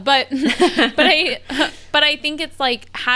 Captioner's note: laughs